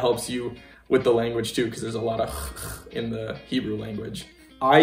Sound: throaty sound

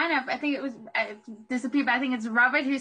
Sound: faintly speaking

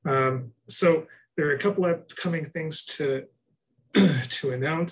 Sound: clears throat

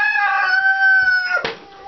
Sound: crowing

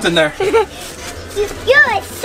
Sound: laughs

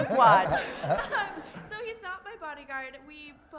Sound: laugh

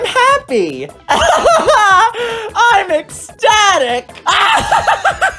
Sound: ecstatic laughter; screaming laughter

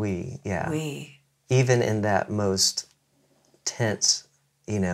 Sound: imitates motor

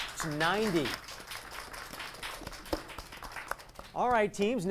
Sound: applause

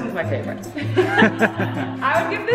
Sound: laughing

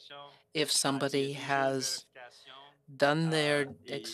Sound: speaking French

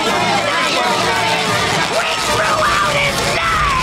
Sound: panicked shouting

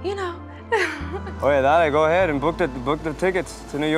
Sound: spanish

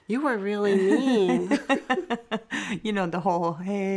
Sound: laughing

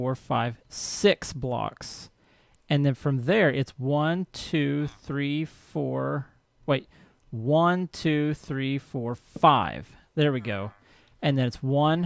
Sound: villager chatters

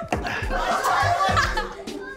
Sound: laughing

